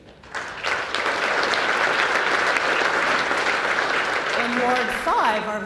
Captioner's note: applause